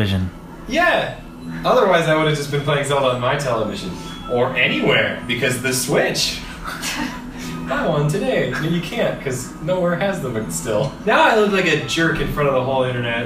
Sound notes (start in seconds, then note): 6.4 laugh